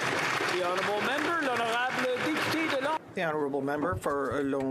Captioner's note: applause